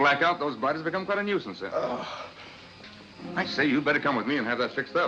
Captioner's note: Tobel groans